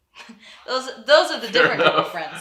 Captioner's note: chuckles